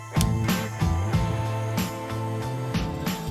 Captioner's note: clicking